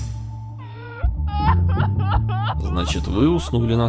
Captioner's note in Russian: женский плач навзрыд